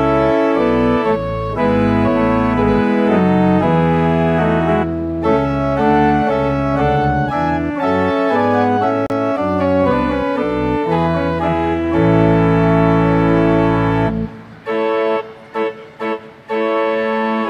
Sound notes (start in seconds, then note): none